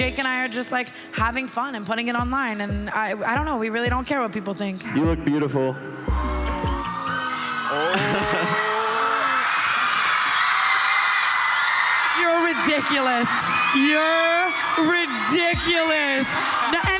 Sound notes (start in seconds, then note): 6.2 crowd cheering